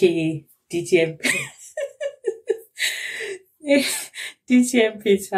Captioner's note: laughs